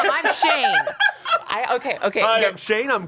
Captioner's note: everyone laughs